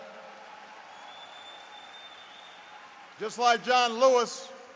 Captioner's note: applause